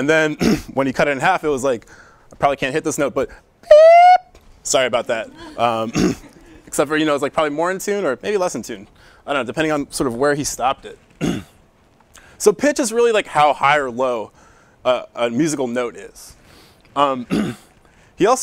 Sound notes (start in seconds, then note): 3.7 beeps Higher